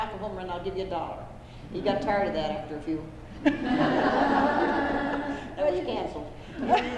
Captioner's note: laughter